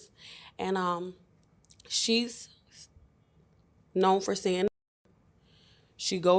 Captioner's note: muted